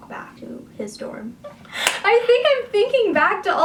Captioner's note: laughs